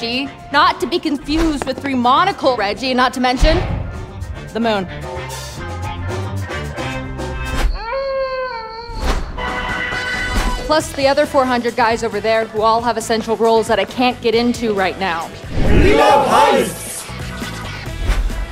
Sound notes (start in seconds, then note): 7.4 wolf howling